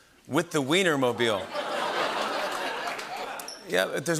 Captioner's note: laughter